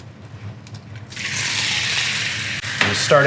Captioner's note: sizzling